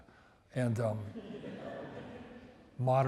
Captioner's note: audience laughs